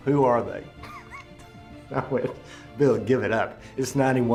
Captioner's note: laughs